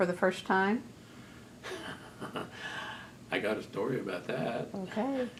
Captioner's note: laughs